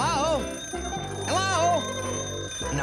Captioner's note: ringing continues